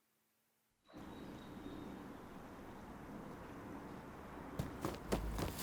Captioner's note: birds chirping; boots stomping